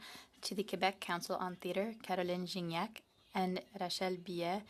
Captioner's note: speaking French